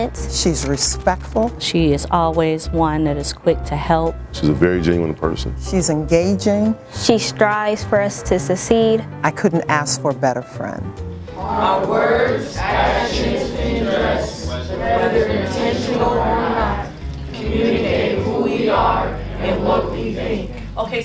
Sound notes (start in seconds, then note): 11.3 class reciting